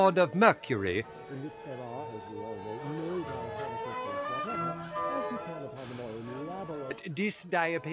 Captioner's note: muted mumbling & party noises